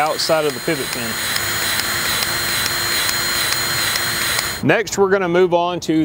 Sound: grease gun revving

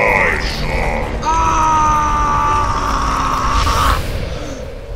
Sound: aggressive screaming

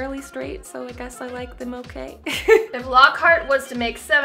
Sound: laughs

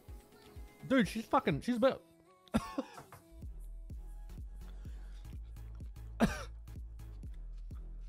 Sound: coughs

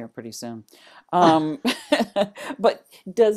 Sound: laughter

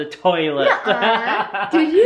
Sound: laughter

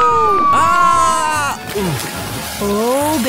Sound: big spash

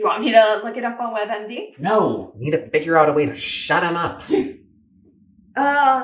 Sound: hiccup

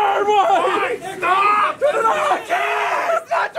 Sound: yelling; all yelling

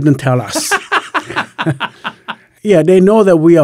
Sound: laughing

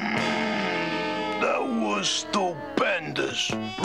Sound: groaning

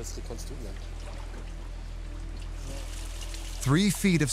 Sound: water trickling

